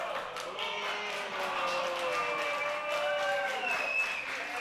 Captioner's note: crowd booing